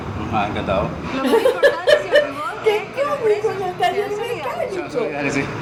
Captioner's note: laugh